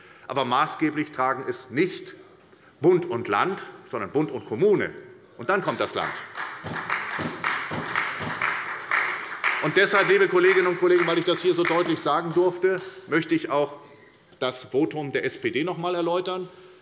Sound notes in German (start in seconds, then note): 5.6 Beifall bei der SPD